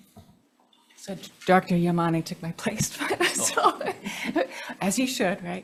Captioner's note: laughs